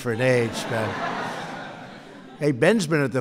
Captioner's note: laughter